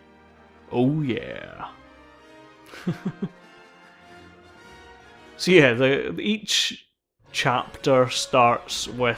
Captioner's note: laughs